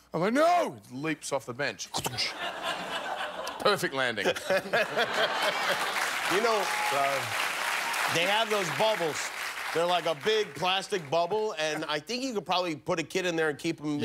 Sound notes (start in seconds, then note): 5.3 cheers and applause; 6.4 laughter